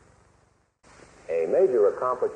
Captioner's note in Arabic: تسجيل أزيز